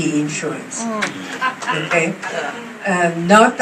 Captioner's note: clapping, laughs